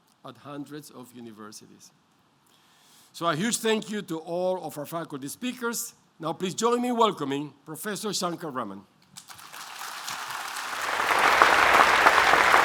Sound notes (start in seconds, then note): 9.2 applause